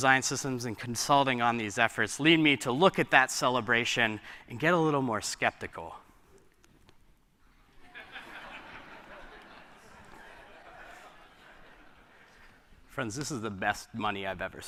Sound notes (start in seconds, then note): 7.8 laughter